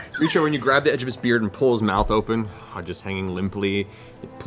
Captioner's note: laughing